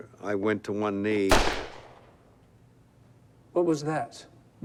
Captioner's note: gunshot